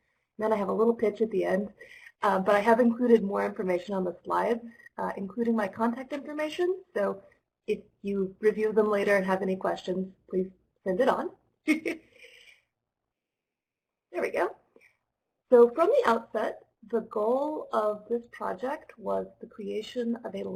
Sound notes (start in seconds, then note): 11.7 laughter